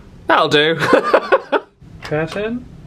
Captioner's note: laughs